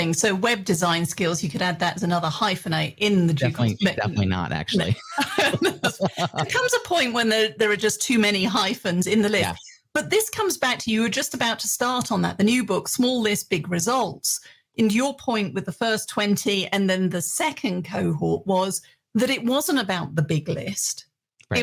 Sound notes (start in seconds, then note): 4.8 both laugh